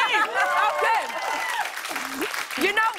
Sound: cheering and applause

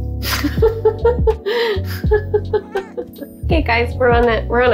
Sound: laughing

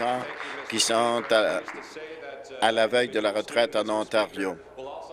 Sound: applause

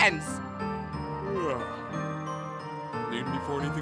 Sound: yawn

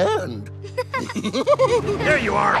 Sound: both laugh

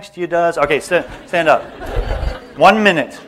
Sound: laughter

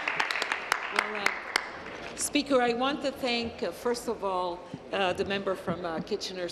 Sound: applause

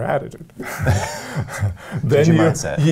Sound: laughs

